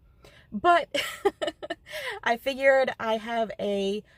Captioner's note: nervous laugh